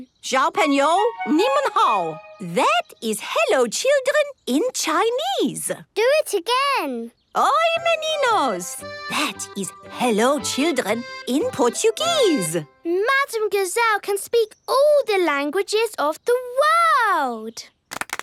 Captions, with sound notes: (speaking Chinese) That is "hello, children" in Chinese. - Do it again! (speaking Portuguese) That is "hello, children" in Portuguese. - Madame Gazelle can speak all the languages of the world!